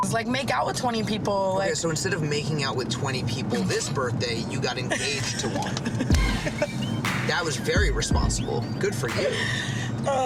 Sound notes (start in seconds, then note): 4.9 laughs